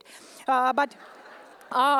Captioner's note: laughter